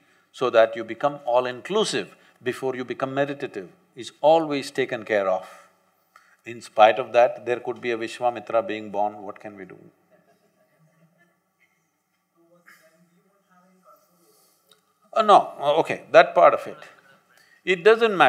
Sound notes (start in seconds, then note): 10.0 laughter